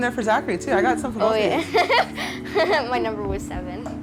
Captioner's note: giggles